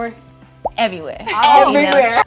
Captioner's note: all laughs